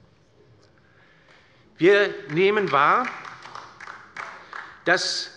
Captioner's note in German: Beifall bei der LINKEN